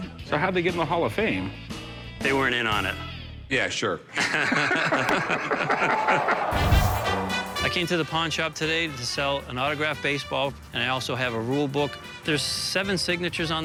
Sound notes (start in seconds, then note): 4.1 laughter